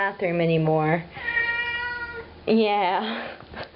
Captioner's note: Resin meows; laughs